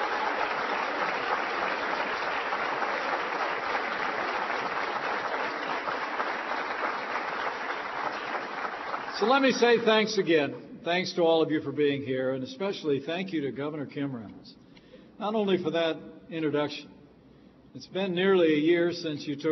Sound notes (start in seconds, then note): 2.9 applause